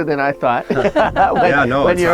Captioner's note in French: rires du groupe